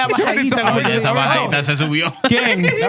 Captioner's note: speaking In Foreign Language